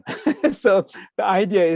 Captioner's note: laughs